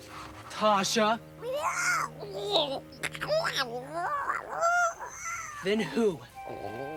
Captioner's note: Tasha babbles excitedly